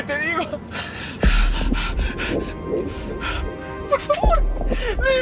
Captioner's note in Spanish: Sollozos